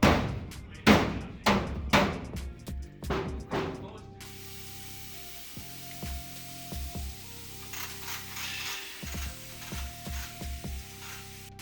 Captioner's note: drill whirring